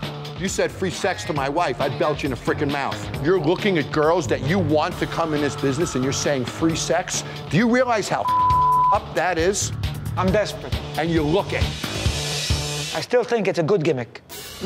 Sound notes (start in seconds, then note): 8.2 beep